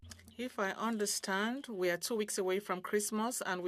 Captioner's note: speaking French